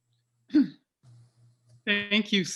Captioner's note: clears throat